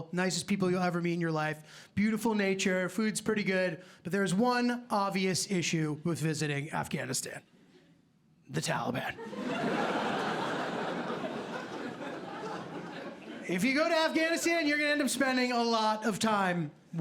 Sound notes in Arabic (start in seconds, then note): 9.2 ضحك